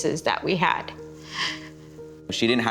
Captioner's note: inhales deeply